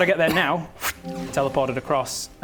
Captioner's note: fffft!